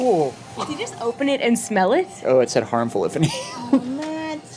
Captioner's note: laughs